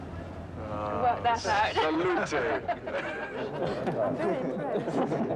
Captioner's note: laughing